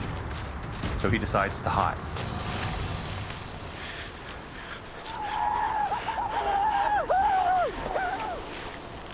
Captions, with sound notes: IN THAT MOMENT, HE HAS TO MAKE A DECISION... SO HE DECIDES TO HIDE. [WHOOPING]